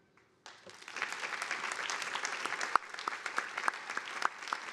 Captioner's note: audience applauding